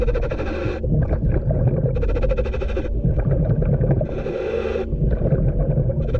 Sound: scuba breathing; water bubbling

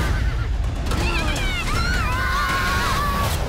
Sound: screaming

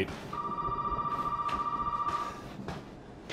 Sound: phone ringing

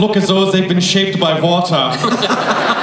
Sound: laughter

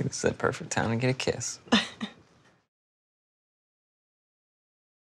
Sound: laughs

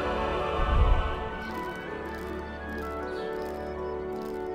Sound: munches

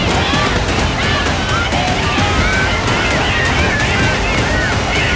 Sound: intense music; on-lookers yelling

